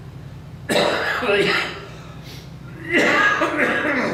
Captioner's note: coughs